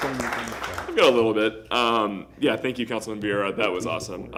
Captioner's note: applause